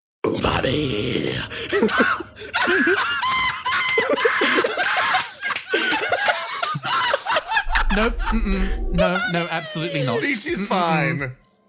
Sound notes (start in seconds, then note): 2.5 cackle